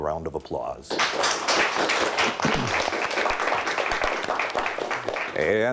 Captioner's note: audience applauds